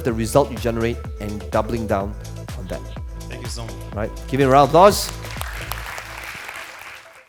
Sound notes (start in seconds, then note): 4.7 applauding